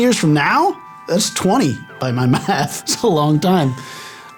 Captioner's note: lauging